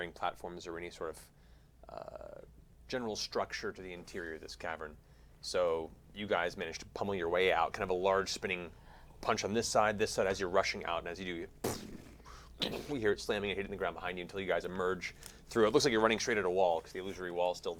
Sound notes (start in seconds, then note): 11.6 impacts